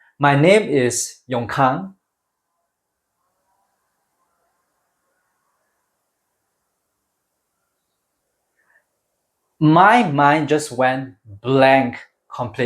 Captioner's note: long pause